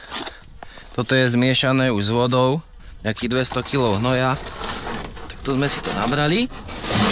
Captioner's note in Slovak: smrkanie